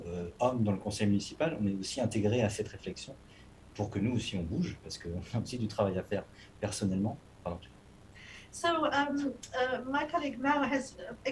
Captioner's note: speaking non-english